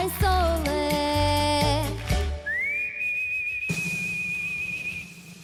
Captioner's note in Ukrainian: оплески